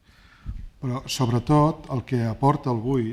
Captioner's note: speaking spanish